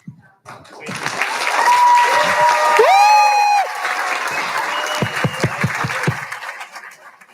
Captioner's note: audience cheers and applauds enthusiastically